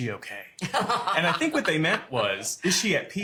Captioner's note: laughter